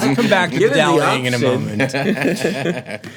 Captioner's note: laughs